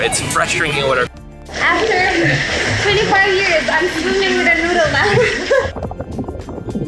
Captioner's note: laughing